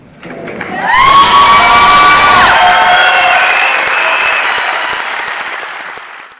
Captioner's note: audience cheers